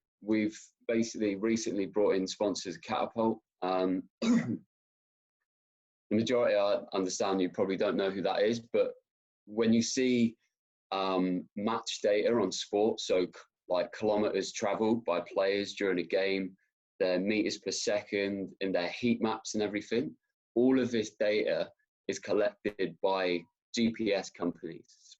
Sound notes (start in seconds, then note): 4.2 coughs